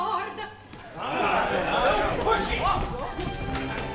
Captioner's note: MEN cheer